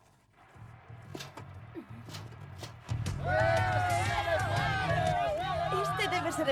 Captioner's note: crowd yelling